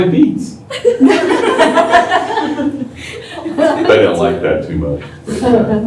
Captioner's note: laughter